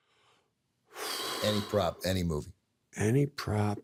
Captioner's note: sighs